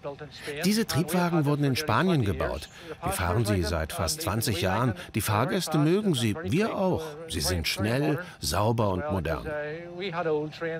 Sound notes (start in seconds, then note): none